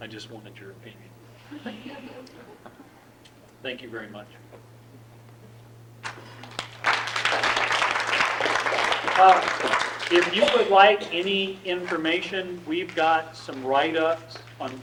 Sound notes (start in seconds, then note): 6.0 audience clapping